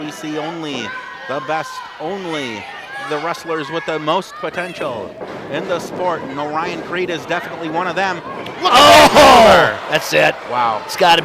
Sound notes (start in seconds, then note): 9.4 both shout